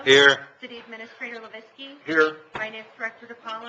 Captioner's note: none